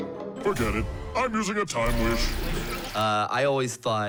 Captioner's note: video whirring